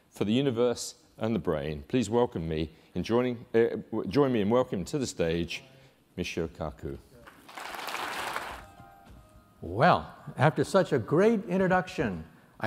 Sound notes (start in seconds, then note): 7.2 applause